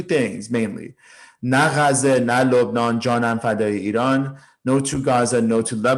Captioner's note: speaking in foreign language